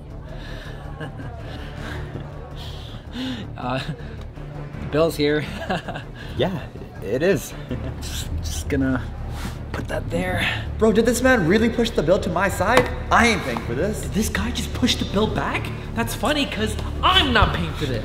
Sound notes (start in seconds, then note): 5.4 chuckles